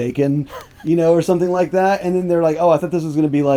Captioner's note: laughing